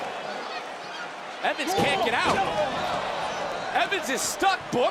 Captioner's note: thumps